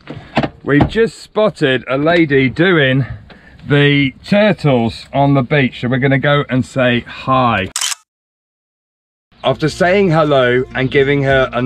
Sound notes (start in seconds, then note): 7.7 camera clicking